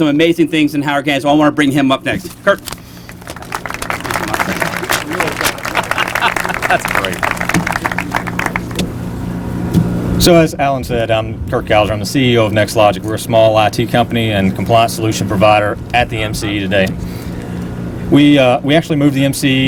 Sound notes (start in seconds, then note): 2.9 applause